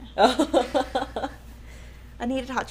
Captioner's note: laughing